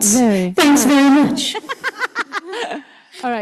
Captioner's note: laughs